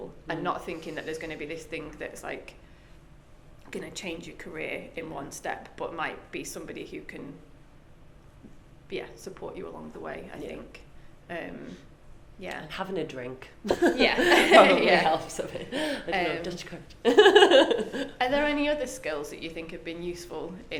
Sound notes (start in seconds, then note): 13.6 both laugh; 17.0 laughs